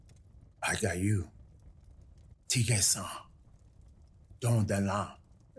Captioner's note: speaking Cherokee language